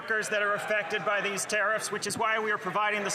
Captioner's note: some Applause